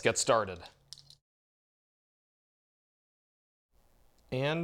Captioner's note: deafening silence!!